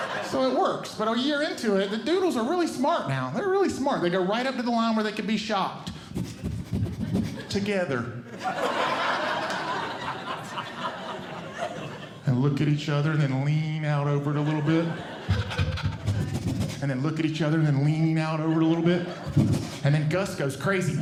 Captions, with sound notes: So it works. But a year into it, the doodles are really smart now. They're really smart. They go right up to the line where they can be shocked [Sniffing] together, [Audience Laughing] and look at each other, and then lean out over it a little bit, [Audience Laughing] [Sniffing] and then look at each other, and then lean out over it a little bit. And then Gus goes crazy.